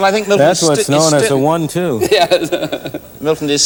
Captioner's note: laughing